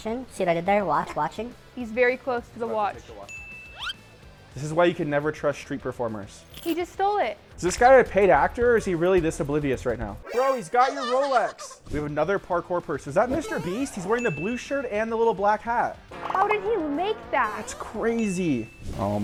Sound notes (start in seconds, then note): 3.3 bell rings; 3.7 whistle slides